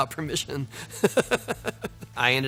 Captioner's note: Tony laughing